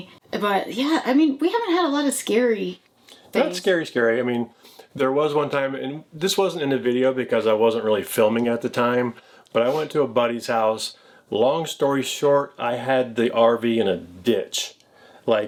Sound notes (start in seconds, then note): none